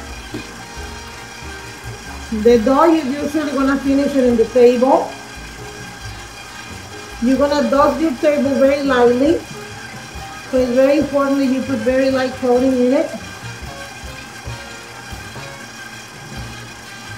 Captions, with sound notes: The dough you usually wanna finish it on the table. You're gonna dust the table very lightly. It's very important that you put very light coating on it. (machine whirring)